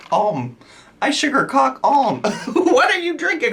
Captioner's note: laughs